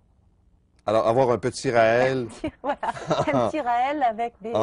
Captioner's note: laughing